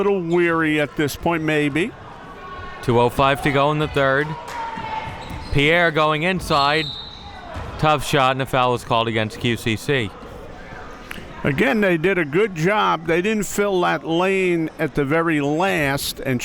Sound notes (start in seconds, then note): 6.5 whistle being blown